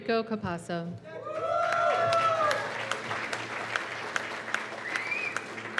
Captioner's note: cheers and applause